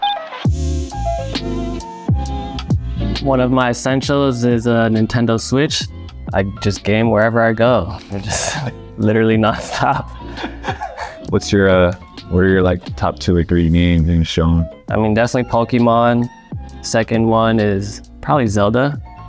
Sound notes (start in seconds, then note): 0.1 lofi music; 9.4 Jeremy chuckles